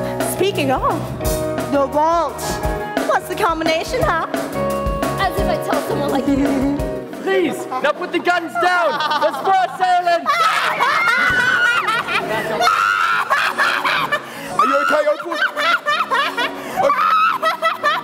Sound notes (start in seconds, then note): 11.1 maniacal laughing, hostages crying, a gunshot; 16.1 Opal continues laughing